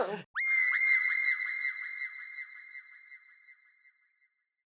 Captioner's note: high-pitched scream